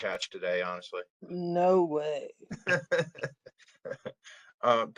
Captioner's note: laughter